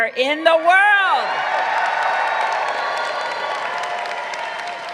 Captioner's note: crowd cheering